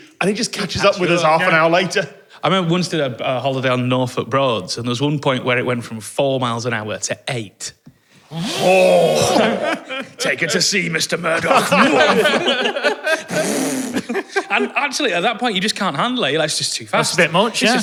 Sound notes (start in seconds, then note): 8.3 vrooom; 11.8 wooomph